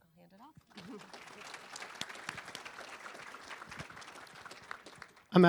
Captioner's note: applause